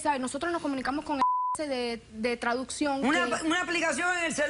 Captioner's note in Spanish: Bip